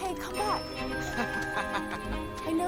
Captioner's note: man laughing